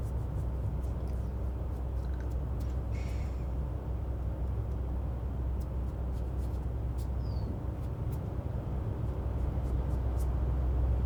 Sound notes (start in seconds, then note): 4.5 air conditioner humming continues